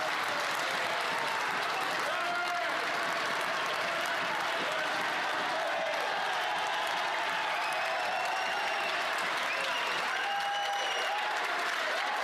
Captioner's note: cheers and Applause